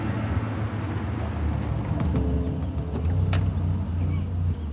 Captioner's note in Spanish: sonido del motor